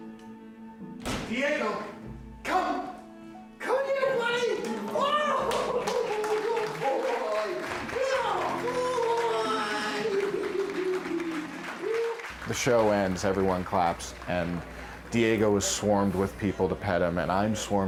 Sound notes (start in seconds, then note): 11.3 laughing; 13.0 applause